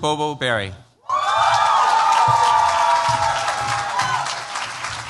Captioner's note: cheers, applause